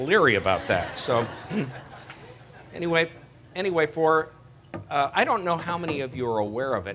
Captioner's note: laughter